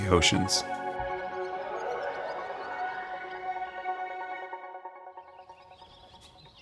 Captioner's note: birds chirping; bright music